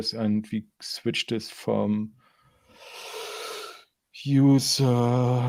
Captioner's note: inhales loudly